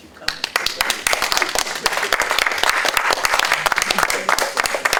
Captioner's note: applause